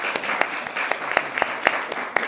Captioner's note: applause